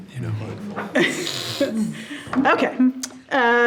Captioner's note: trustees chuckling